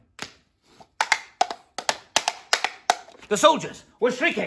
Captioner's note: clip clop clip clop